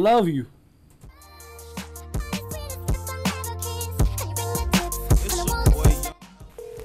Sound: phone ringing

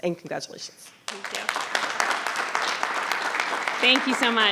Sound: audience applauding

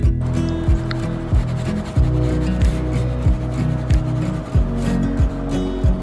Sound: pencil scraping continues

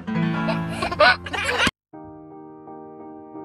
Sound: laughs; bright music

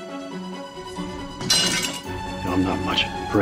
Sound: blade clatters

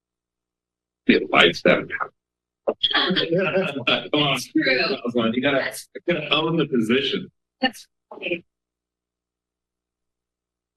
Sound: background chatter

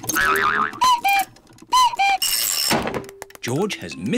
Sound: clock cuckoos

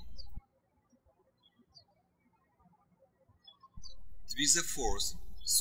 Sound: birds chirping

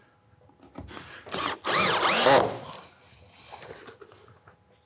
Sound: drill whirring

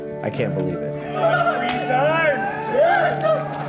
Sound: cheering

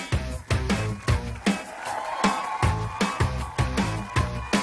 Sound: applause

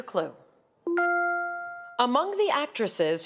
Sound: bell chimes

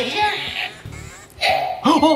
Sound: balloon pop sound

